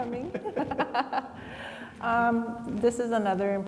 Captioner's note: laugh